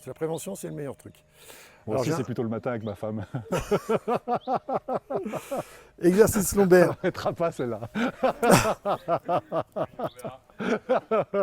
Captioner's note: laughs